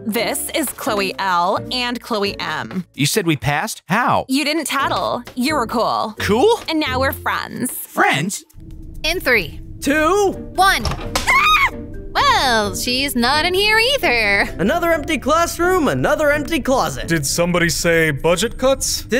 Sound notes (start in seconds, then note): 11.2 Clair screams